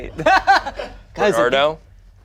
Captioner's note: laughs